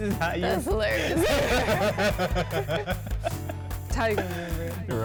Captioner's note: both laugh